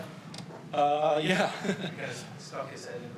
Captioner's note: chuckles